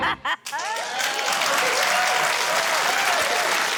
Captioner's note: laughs; cheering, applause